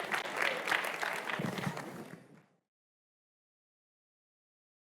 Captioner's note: audience applauding